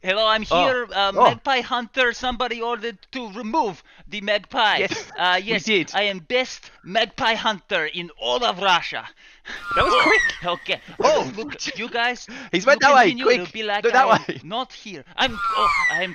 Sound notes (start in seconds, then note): 9.6 magpie shrieks